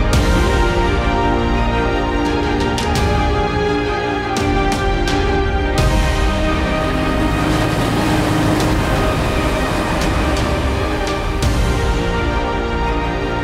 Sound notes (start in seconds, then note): 7.7 waves crashing